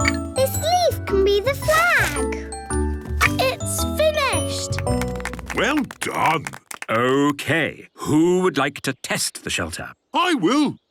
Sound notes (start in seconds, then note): 4.4 applause